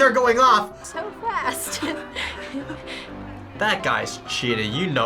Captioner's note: laughs